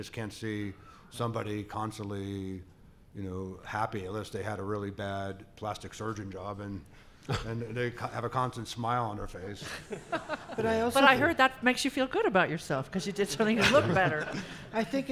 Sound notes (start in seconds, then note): 9.6 laughing